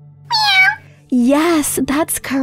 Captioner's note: meowing